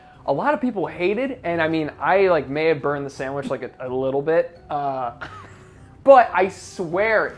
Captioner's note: laughs